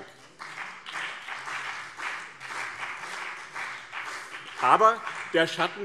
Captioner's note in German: Beifall BÜNDNIS 90/DIE GRÜNEN und CDU